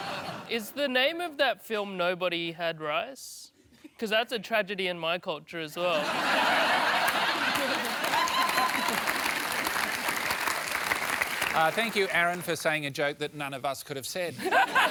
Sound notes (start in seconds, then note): 5.9 laughter; 14.4 laughs loudly